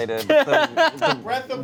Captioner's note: laughing